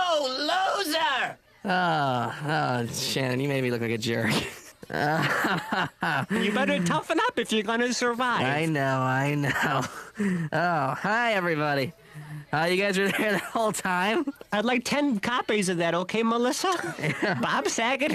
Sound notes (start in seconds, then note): 4.8 laughing